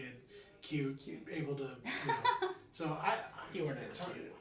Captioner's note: laughing